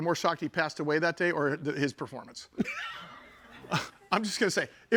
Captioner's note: chuckling